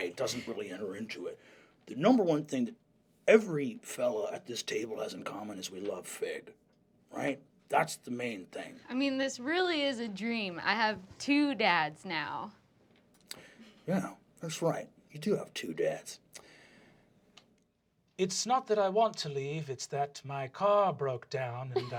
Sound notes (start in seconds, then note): 18.3 soft, accented voice